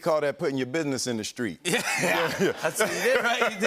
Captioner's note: laughter